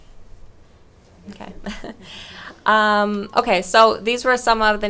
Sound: chuckles

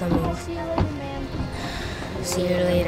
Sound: sighing

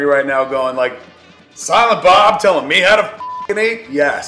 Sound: beep

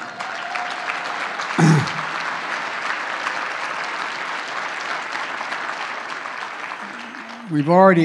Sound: applause

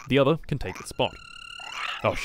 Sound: sounds of Angry Australian Frogs

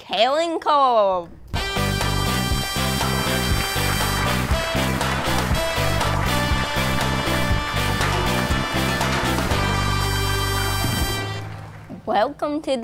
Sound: MUSIC and APPLAUSE

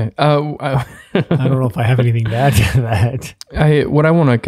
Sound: laughs

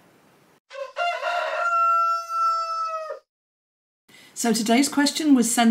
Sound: rooster crows

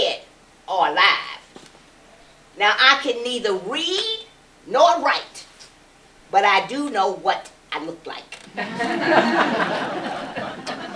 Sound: laughter

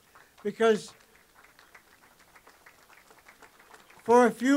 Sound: applause

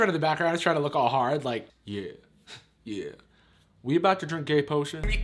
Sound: deep voice

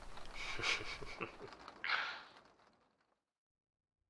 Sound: soft laughter

